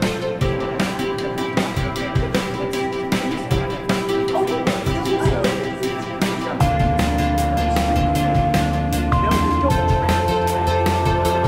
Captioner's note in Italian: Chiacchiericcio